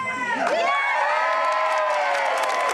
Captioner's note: cheering and applause